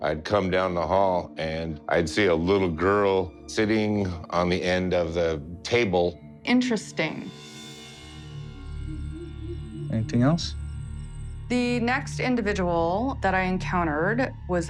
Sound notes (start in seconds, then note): 8.5 owl hooting, crickets chirping